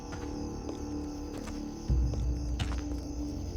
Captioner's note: footsteps